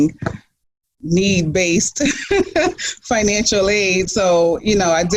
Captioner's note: laughs